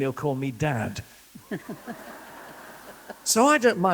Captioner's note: laughter